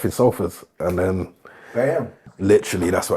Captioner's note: snapping